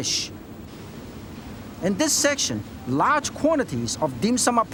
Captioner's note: water chuffing